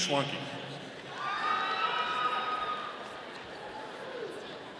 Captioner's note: audience cheering